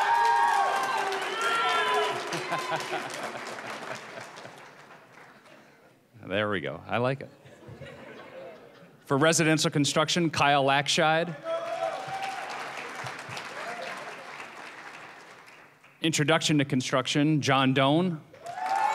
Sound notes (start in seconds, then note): 0.0 applause, cheering; 0.0 laughing; 7.4 audience laughing; 11.4 applause, cheering